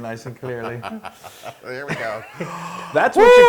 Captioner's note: laugh